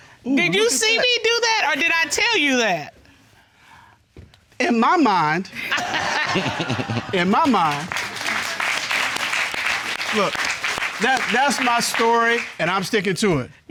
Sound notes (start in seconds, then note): 5.6 chuckles; 5.6 audience laughing; 7.9 audience applauding